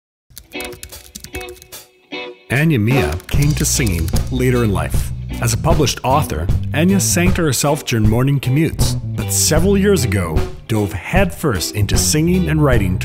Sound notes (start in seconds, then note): 0.2 lively music; 0.3 keyboard clattering